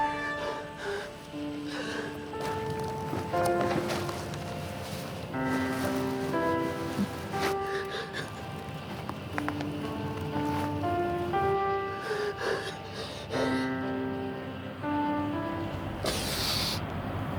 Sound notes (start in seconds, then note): 1.8 crying